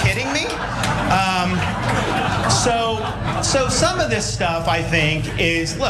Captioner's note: applause